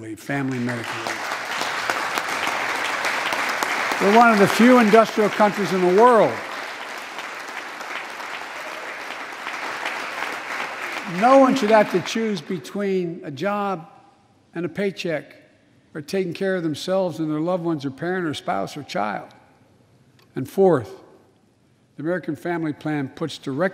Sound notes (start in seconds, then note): 6.0 applause